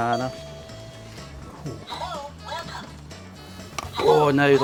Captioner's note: toy speaking